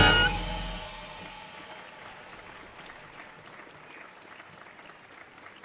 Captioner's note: audience applauding